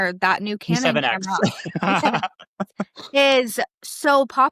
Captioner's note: laughs